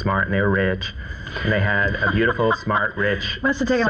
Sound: laughs

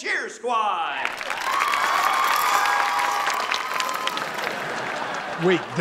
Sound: cheering, applauding

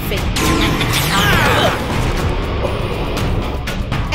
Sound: Psycholox grunts

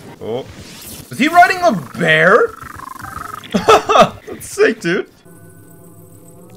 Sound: laugh

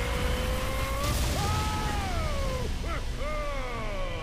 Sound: shouting; Drago chuckling

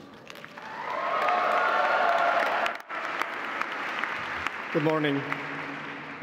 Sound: audience cheering

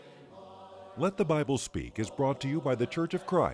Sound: voiceover

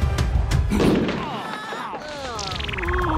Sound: groaning

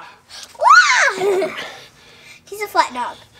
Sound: laughs

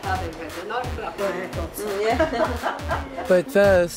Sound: everyone laughs

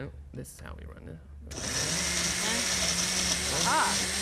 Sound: blender revving

